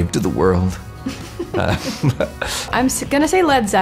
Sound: laughter

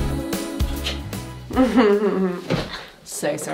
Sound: chuckles

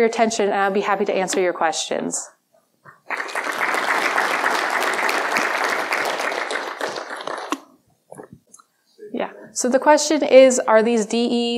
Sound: clapping

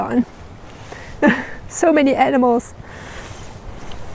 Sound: laughs

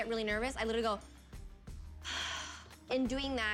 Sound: sighing

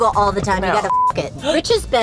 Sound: beep

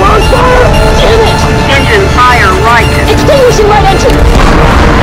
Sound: automated voice

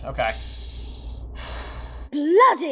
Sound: sighs

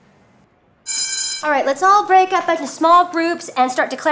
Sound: bell rings

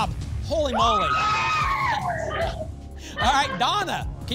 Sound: cheering

